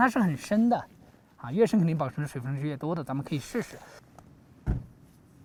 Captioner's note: speaking Chinese